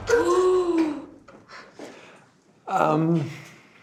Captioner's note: dramatic music ends; gasping